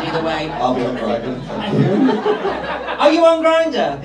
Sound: crowd laughs

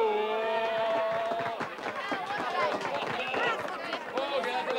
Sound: staff applaud

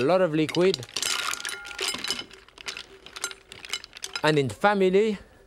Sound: mussels clattering

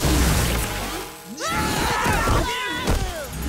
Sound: screaming

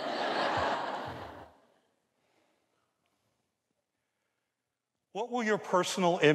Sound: audience laughs

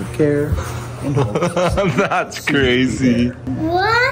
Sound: laughing

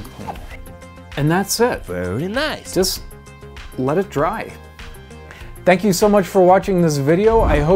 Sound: silly voice Very nice

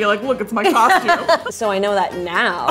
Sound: laughs

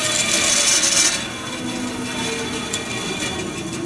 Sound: saw powers off

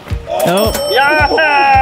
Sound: group cheering; cash register dinging

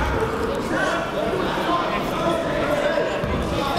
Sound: chatter

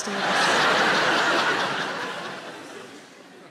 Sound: laughing

